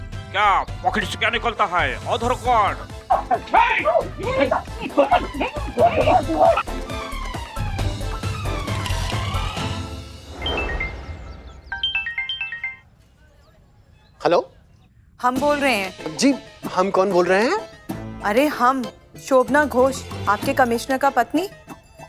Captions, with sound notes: What are you taking out of your pocket? Aadhaar card? [mobile ringing] - Hello. - It's me. Yes, who exactly? It's me, Shobhna Ghosh. Your commissioner's wife.